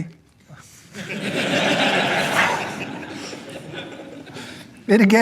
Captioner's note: audience laughing